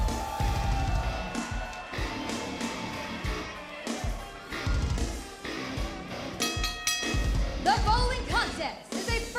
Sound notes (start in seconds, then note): 6.4 bell ringing